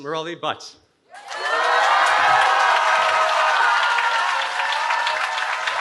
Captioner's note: cheering